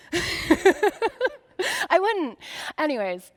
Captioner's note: laughing